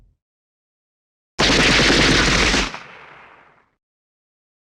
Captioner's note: shooting SFX